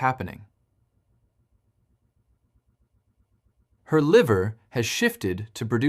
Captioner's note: pause